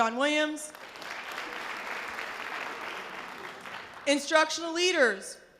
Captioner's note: audience applause